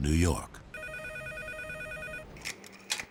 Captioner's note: phone ringing